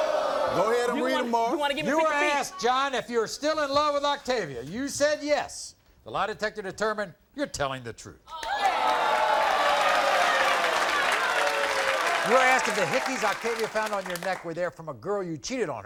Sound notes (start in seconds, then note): 8.3 audience cheering